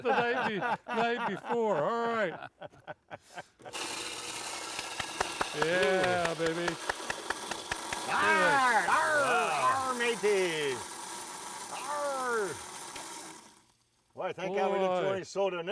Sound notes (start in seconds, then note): 3.1 blender whirring; 3.7 group applauding; 15.5 group laughing